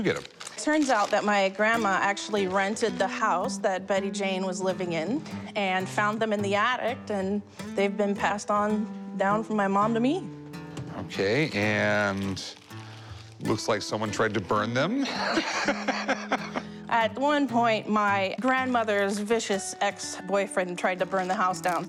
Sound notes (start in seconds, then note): 15.0 laughs